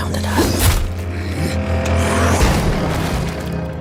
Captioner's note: zombie growling